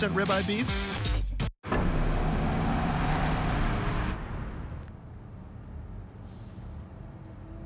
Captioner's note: SFX: Engine sound